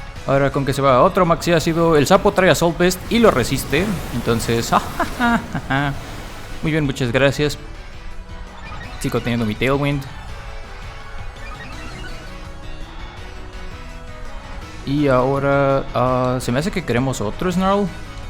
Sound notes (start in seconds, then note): 3.6 laughs in very little damage